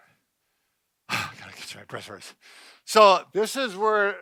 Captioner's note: sighs